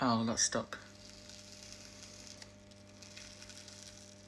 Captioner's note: peeling